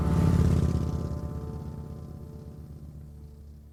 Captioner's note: motorbike roaring